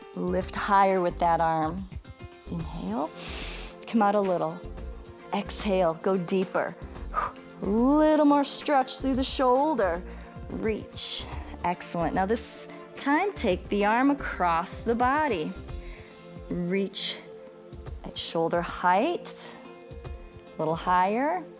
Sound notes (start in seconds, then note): 3.1 inhales; 7.1 short exhale